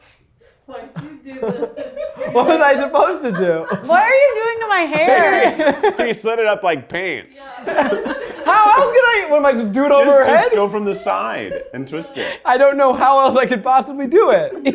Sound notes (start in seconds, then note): 4.9 laughs; 7.5 and crew laugh